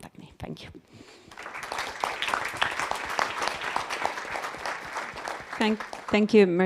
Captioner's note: audience applauds